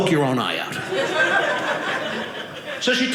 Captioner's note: audience laughing